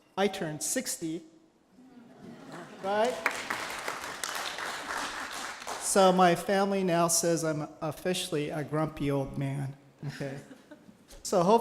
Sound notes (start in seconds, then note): 2.5 applause